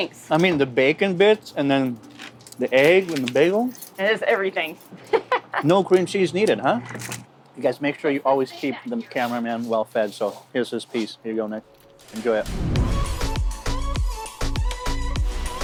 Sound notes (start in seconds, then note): 5.0 laughing; 12.2 upbeat music